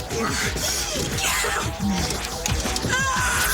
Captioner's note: Jodie screaming